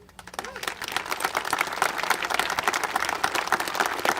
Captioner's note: congregation applauding